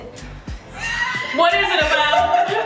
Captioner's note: laughs